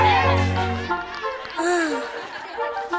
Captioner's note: girl sighs